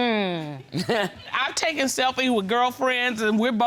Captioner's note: audience laughing